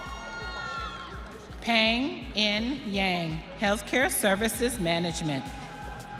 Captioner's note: audience cheering